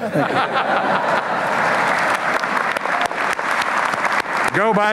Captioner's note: applause